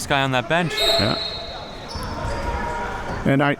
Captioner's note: whistle blowing